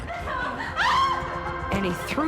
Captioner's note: screams